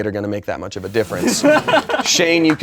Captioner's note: laughing